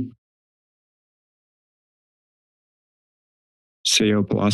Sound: mic thumps; silence

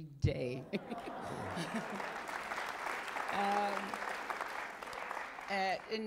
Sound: applause

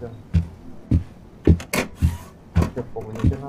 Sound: sound the printer

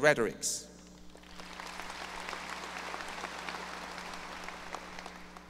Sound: audience applause

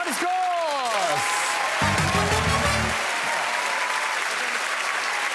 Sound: crowd applauds and cheers

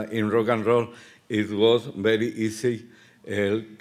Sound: speaking Spanish

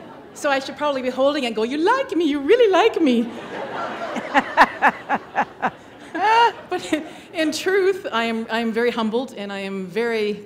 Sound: laughter

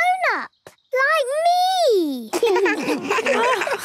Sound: laughs

